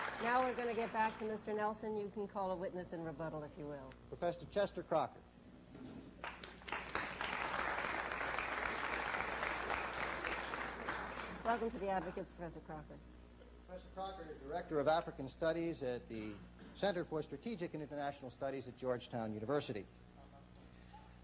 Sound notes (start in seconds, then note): 6.2 applause